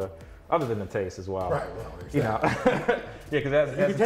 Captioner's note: laughs